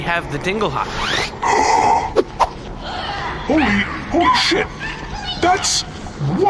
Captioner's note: gasps